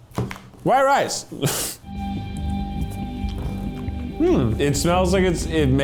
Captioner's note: chuckling